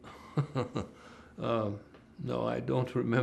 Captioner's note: laughing